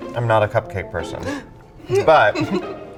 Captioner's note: gasps